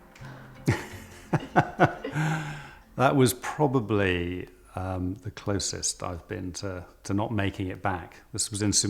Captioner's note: laughing